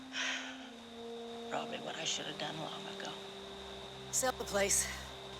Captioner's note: sighing